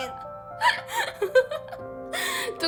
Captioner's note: laugh